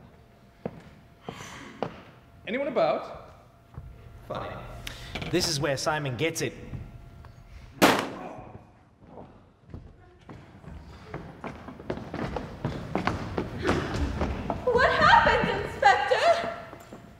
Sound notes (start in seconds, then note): 7.8 gun shot